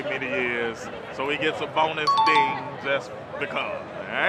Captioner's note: chime dings